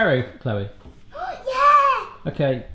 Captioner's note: gasps